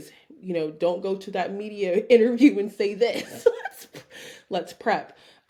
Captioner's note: chuckling